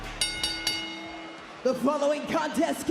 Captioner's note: bell rings